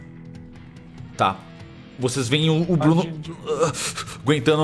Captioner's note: groans